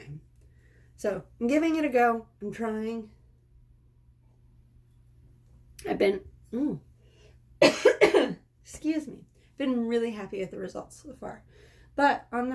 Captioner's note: cough